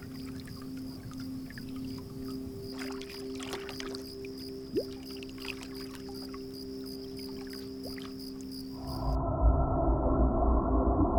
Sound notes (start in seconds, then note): 5.4 water warbling; 8.1 crickets chirping